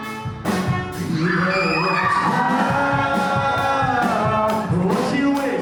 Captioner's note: audience cheers